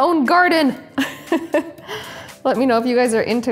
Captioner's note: chuckles